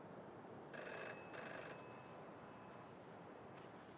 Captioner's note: phone rings